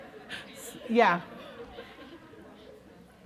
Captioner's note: laughter